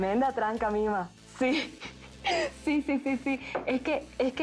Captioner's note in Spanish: Ríe